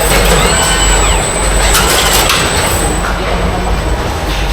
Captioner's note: screaming